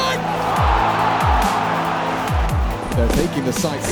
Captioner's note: audience cheering loudly